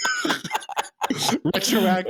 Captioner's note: laughing